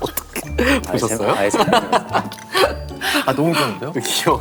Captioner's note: he laughs out loud by drawing